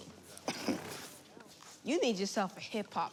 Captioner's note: Valentine chuckles